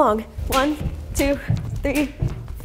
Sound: jump rope slaps floor

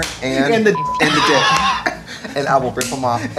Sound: beep; laughing

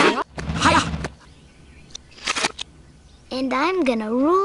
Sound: reversed bone falling sound

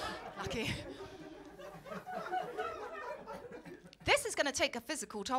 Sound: laughter

